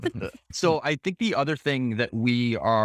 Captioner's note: laughing